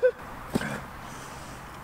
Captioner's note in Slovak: zvuk dopadu chodidiel na zemský povrch